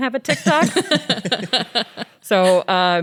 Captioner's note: laughs